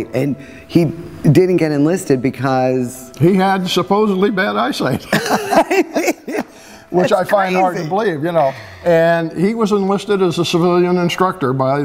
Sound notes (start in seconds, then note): 5.0 laughs